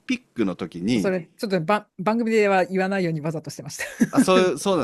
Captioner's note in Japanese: 笑い